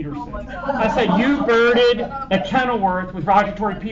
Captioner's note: laughter